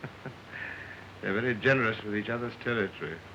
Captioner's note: chuckling